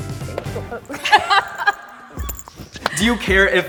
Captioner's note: laughter